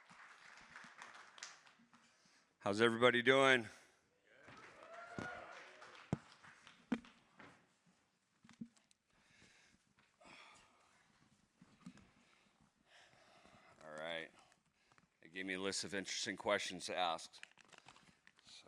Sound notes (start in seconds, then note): 4.4 audience cheers